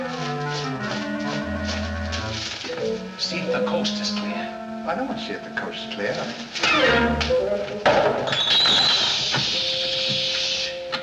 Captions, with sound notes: See if the coast is clear. I don't want to see if the coast is clear. [CLANK] Shhh!